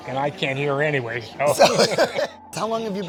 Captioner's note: both laughing